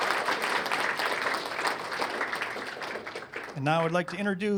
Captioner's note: applause